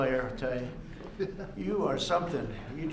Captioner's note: laughter